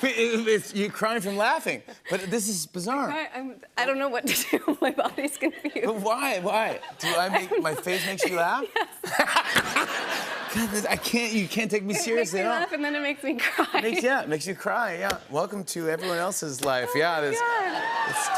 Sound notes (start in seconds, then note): 6.5 laughing; 9.1 laughter